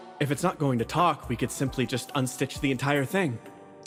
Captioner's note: none